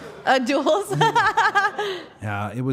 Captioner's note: Liv laughing